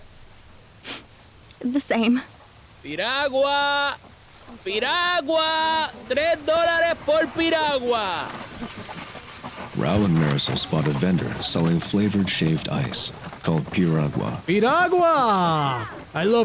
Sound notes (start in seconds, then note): 3.9 in Spanish